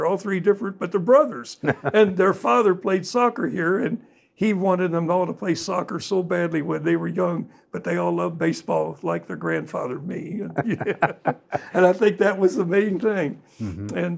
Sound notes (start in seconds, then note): 10.4 laughs